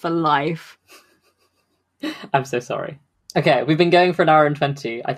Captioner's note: laughs